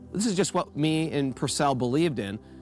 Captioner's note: none